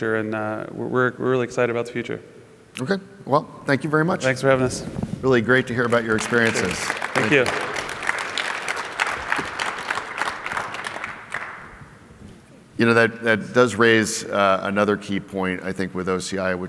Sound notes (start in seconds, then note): 5.5 applause